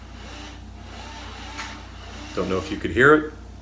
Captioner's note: door lock whirring